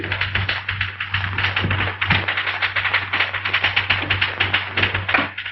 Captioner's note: rattling